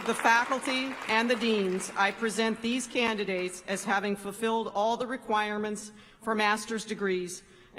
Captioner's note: applause